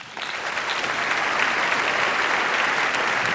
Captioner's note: applause